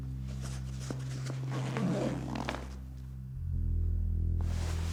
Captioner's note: bag zips